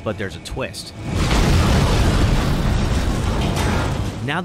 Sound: explosions

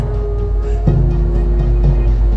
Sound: buzz intensifies; buzz

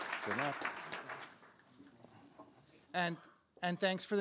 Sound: applause

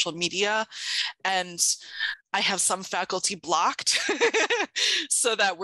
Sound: laughs

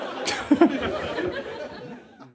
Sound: laughs

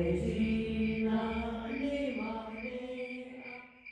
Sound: crickets chirping

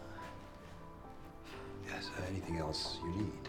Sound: none

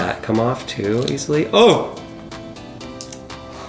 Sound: crunching sound

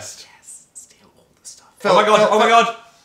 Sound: whispering

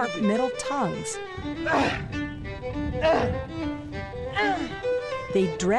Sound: grunting

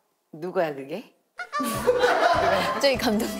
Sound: excited

